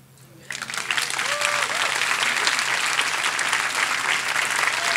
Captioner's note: audience applauding